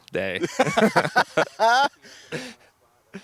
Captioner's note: laughing